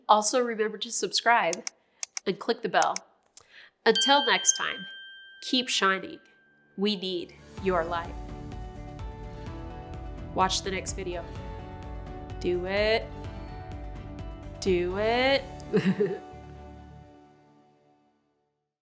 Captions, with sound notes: Also remember to subscribe and click the bell. Until next time, keep shining we need your light. (soft music) Watch the next video. Do it, do it. (chuckles softly)